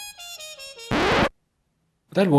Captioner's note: scratching noise